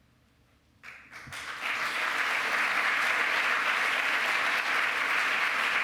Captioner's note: applause